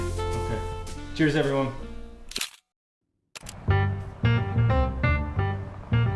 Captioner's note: camera clicking; upbeat music